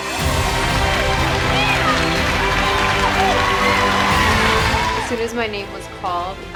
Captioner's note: audience cheering; audience applauding